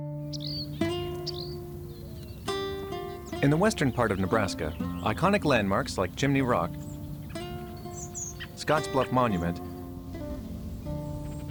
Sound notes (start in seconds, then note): 0.1 birds chirping; 0.1 gentle music; 6.9 birds chirping; 6.9 gentle music; 9.9 gentle music